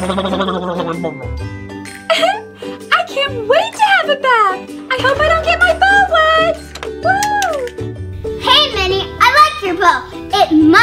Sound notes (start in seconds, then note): 2.0 giggling